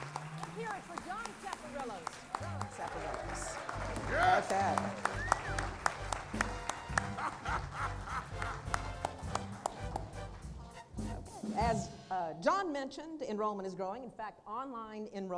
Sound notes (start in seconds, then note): 8.1 applause